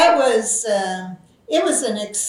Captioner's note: laughs